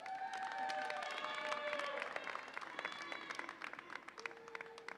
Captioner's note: audience applauds and cheers